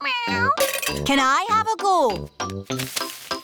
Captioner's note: meows